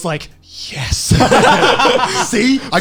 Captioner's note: laughing